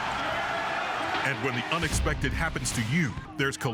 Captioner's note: voiceover